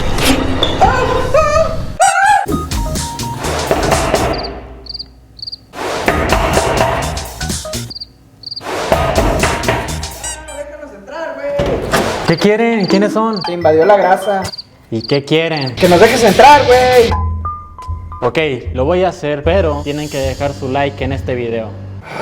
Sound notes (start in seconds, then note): 0.3 horror music; 3.7 sounds of door being knocked